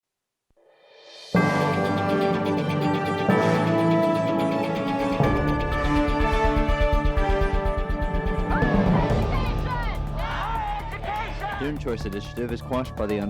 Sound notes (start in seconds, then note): 8.4 chanting